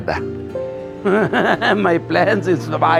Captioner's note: laughs